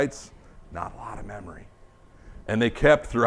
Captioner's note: whispers